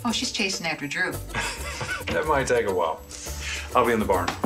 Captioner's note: laughs